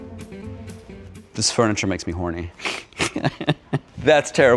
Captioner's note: laughs